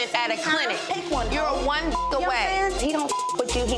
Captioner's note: overlapping chattering; beep